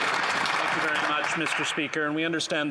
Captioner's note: applause